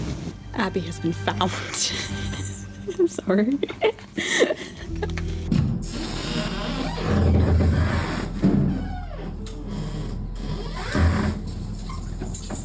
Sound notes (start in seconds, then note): 1.8 giggles; 4.8 door creaks open, dramatic music starts; 11.1 door shuts, keys jangle